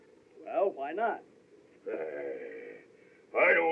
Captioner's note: groans